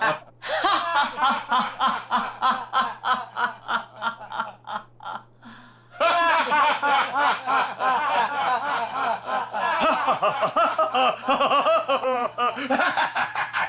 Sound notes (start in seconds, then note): 0.0 Frenchie laughing; 5.9 everyone laughing